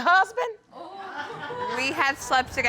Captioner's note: audience exclaims